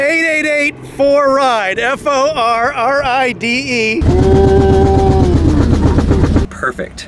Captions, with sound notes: - 888-For-Ride. F-O-R-R-I-D-E. (slowed down voice) - Perfect.